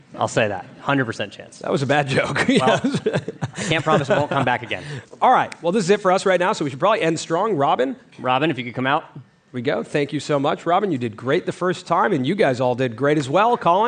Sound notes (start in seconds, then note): 2.2 laughter; 2.3 laughs